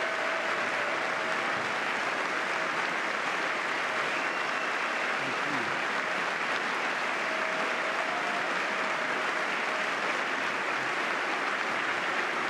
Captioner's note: applause